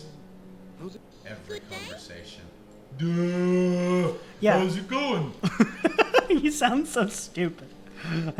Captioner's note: giggle